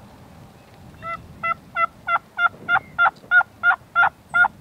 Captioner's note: turkey calling